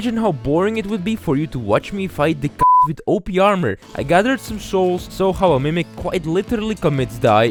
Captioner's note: meep